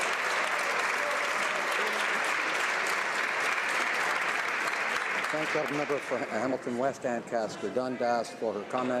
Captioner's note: some Applause